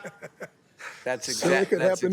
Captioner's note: laughter